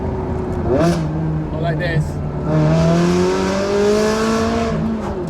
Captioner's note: Sound: Pure Ferrari V8 engine music